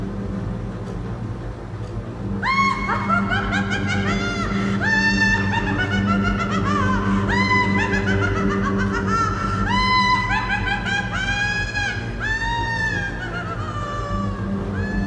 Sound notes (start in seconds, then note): 2.6 dancer cackling